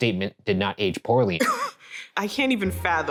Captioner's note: laughing